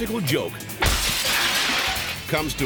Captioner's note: glass shattering